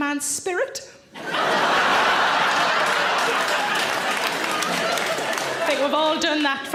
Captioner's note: audience laughs and applaud